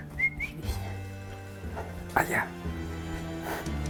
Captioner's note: whistles